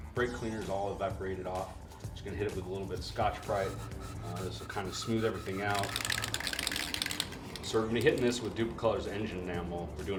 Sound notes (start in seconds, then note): 5.5 rattles